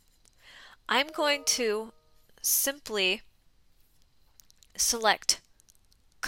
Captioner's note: notification chimes